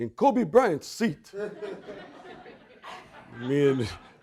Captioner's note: audience laughing